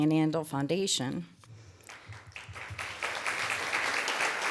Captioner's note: applause